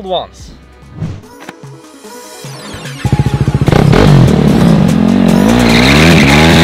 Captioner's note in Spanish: Moto haciendo brooom broooom